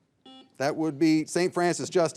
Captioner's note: signal beeps